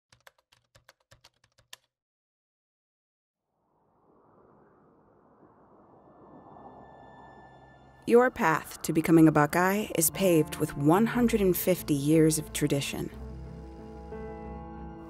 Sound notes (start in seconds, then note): 0.1 keyboard clicking; 3.5 wind howling